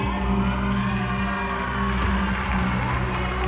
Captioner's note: applause